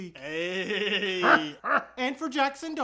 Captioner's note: even weirder laughing